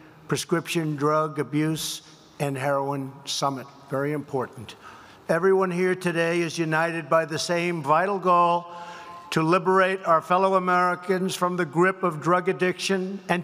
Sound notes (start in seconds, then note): none